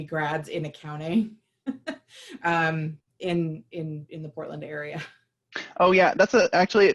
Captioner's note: laughter